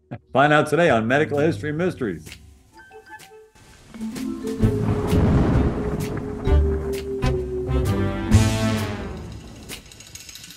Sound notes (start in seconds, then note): 4.0 suspenseful music; 4.5 thunder roaring